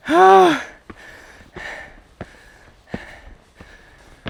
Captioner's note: is slowly starting to pant